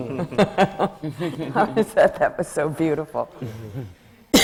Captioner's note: laughter